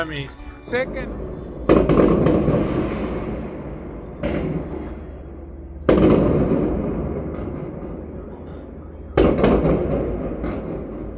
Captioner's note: fireworks